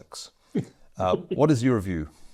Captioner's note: chuckling